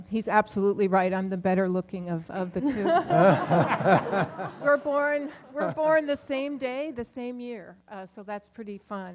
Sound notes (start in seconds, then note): 2.7 laugh